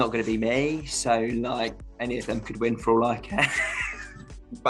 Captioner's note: laughs